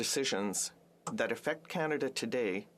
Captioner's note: speaking French